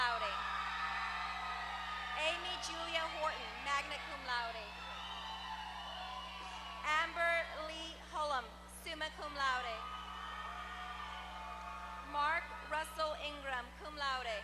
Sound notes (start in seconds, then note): 0.0 applause